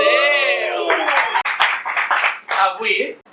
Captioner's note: applause